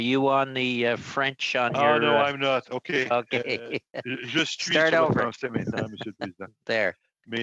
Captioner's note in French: voix de l'interprète